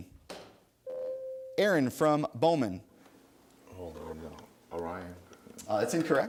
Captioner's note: ding